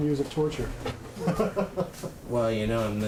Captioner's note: laughs